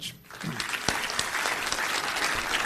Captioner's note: applause